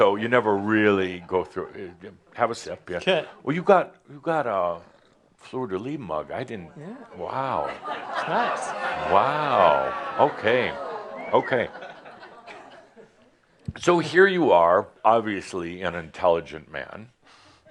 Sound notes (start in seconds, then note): 7.4 laughter